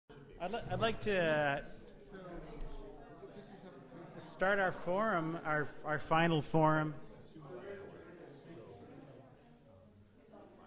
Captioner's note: chatter in the background